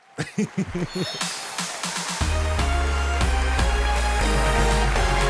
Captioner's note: audience applauding